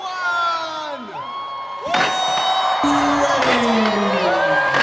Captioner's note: cheers